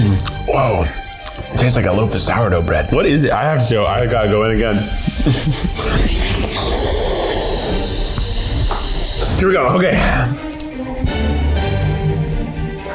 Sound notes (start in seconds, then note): 4.8 chuckling; 5.0 inhales in preparation